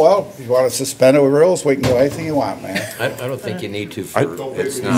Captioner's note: laughter